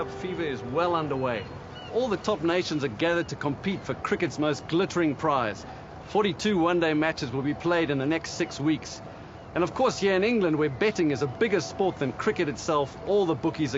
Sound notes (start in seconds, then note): none